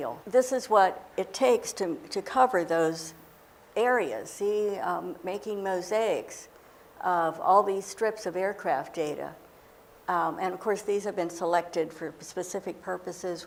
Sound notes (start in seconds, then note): none